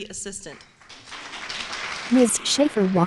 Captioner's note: applause